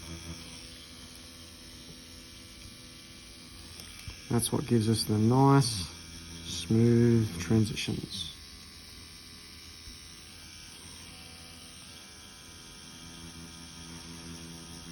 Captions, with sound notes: That's what gives us the nice, smooth transitions. (machine whirring)